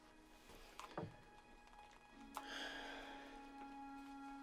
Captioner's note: sighs